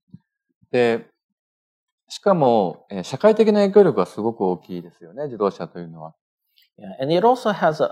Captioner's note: speaking japanese